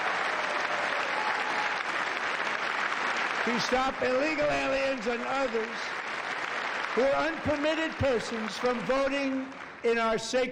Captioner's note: cheers and applause